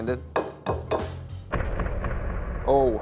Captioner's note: egg clinking